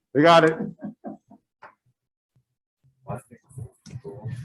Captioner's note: laughter